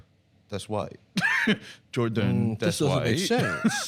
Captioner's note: laughs